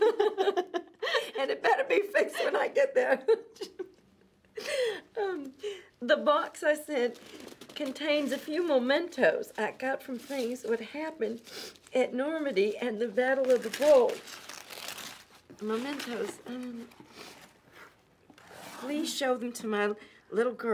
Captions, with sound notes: Tell Harold I heard about him wreckin' my car and it better be fixed when I get there (laughs). The box I sent contains a few mementos I got from planes. What happened, at Normandy and the Battle of the Bulge.